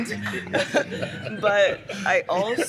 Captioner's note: laughter